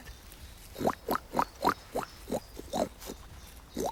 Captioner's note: imitates boar call